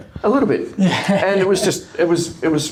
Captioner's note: laughing